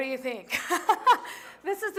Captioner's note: laughter